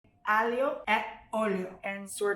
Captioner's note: speaks in Italian